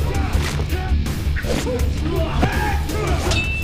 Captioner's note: bones creaking; metal clanking